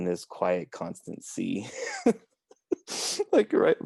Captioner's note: laughs